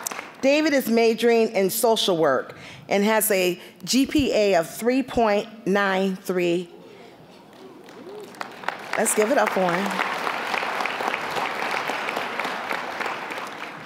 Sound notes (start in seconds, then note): 0.0 applause; 6.7 impressed murmuring; 7.5 applause